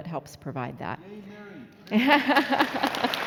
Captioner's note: laughing; applauding